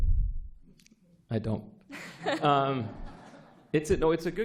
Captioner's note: laughter